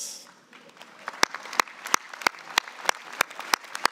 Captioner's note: applause